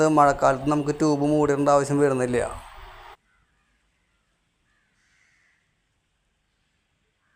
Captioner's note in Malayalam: കരഘോഷം